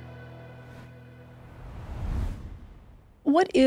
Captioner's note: screen whooshing